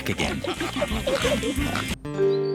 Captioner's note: all giggling and snorting